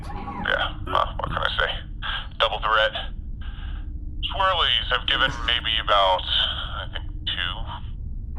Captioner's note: none